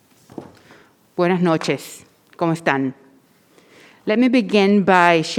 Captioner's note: speaking in foreign language